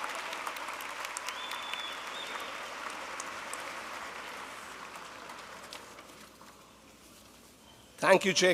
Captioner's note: applause